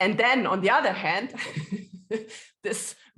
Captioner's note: laughing